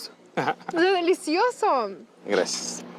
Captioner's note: laughs